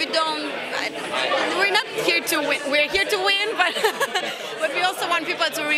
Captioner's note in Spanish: risas